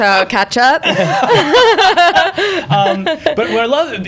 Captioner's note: laughter